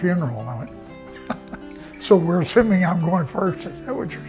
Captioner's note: laughs